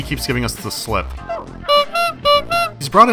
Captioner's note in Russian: бибик-бибик